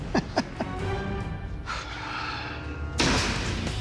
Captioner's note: chuckles; sighs